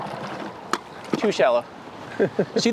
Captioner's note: laughs